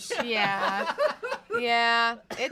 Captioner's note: off-camera laughing